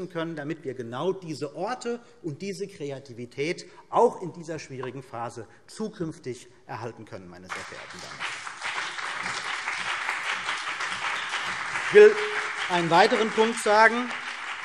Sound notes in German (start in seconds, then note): 7.5 Beifall CDU und BÜNDNIS 90/DIE GRÜNEN